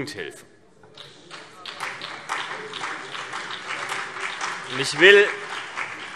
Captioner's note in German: Beifall BÜNDNIS 90/DIE GRÜNEN und vereinzelt CDU